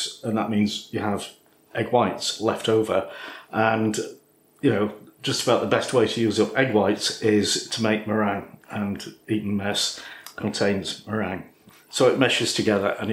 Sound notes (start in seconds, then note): none